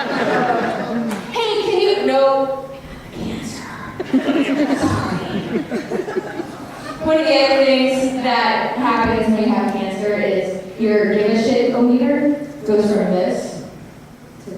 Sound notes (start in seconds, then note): 3.5 whispers; 5.9 audience laughter